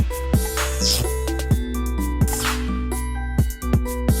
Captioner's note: electric zapping